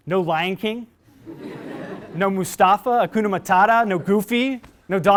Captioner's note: laugh